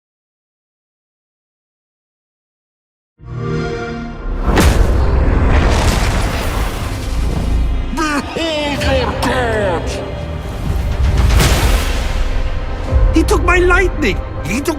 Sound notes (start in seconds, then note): 3.2 xbox sound; 4.4 rumbling